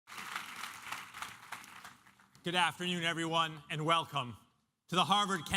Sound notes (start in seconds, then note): 1.6 applause